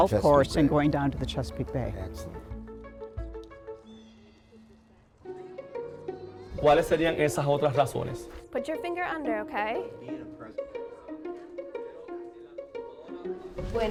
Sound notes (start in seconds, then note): 6.6 teacher speaking Spanish; 10.3 gentle music continues